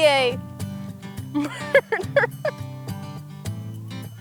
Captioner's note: laughs